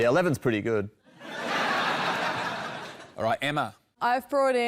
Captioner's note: laughter